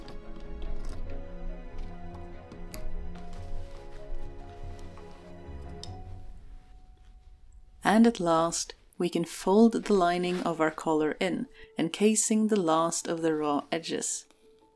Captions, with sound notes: [Soft snip] And at last, we can fold the lining of our collar in, encasing the last of the raw edges.